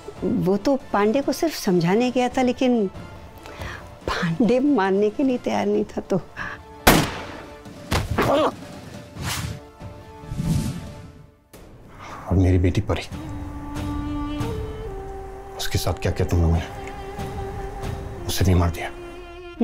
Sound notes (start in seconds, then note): 6.8 Gunshot; 8.1 Pandey screams